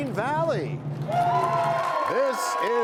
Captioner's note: cheers and applause